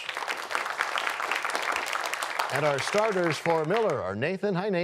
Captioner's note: applause